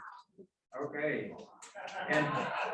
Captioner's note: applause